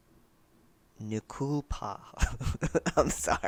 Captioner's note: laughter